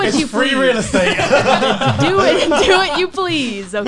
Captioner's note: laughs